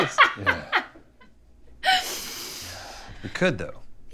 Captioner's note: laughing